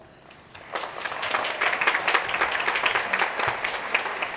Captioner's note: crowd cheering